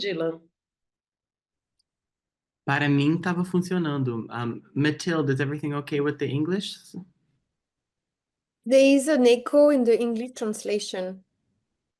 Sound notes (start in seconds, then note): 2.7 speaking in Portuguese